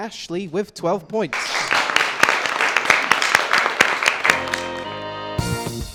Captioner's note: applause